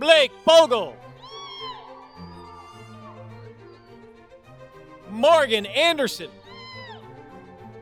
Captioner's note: applause